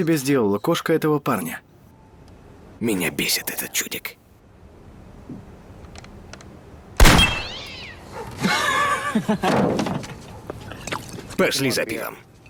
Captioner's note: gunshot; cat shrieks; laughs